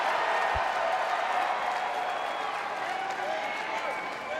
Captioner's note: audience cheers